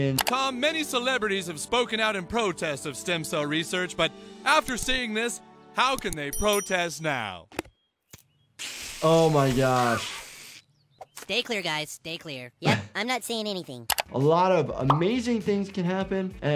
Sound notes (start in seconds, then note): 7.6 cooler clicks; 9.4 slurps